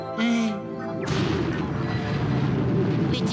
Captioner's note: rumbling